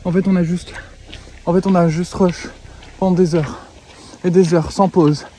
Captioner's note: trying to breathe